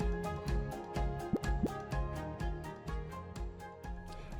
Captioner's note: graphic pops